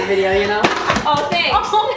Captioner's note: book thumping